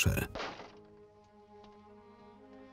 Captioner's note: door slams shut